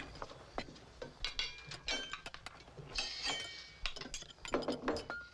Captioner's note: dishes clinking